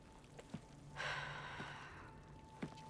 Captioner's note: sigh